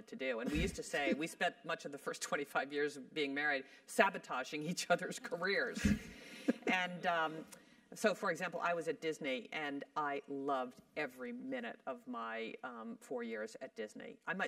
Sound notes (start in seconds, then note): 0.4 laugh; 6.2 laugh